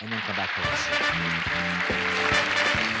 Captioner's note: audience cheers